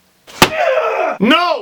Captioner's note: slams